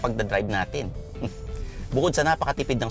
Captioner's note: scoffs